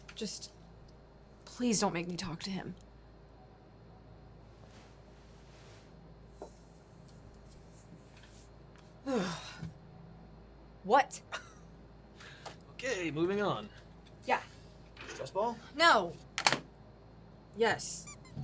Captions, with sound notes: - Just please don't make me talk to him. (groans) What? (Declan chuckles) - Okay, moving on. - Yeah. - Stress ball. - No. Yes.